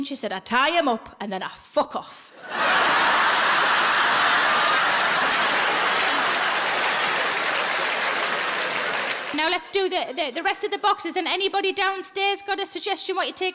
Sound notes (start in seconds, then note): 2.4 audience laughs and applauds